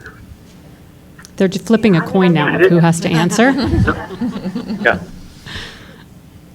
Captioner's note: laughter